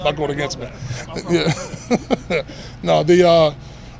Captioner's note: laughing